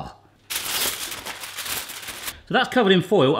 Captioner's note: foil crinkling